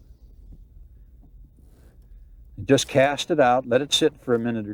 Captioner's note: footsteps